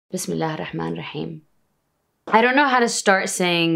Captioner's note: speaking in Arabic